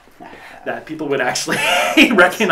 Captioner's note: laughs